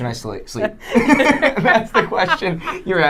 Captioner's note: laughing